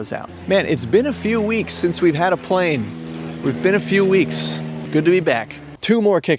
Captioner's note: plane noises